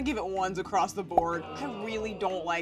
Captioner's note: popping